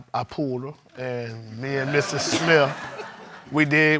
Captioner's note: audience laughs